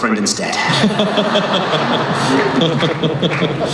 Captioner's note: laughing